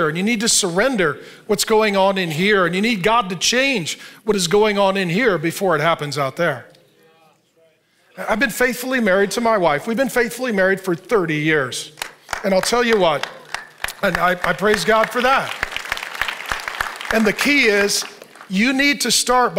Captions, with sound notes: And you need to surrender what's going on in here. And you need God to change what is going on in here before it happens out there. I've been faithfully married to my wife. We've been faithfully married for 30 years. (audience applauding) And I'll tell you what, I praise God for that. And the key is you need to start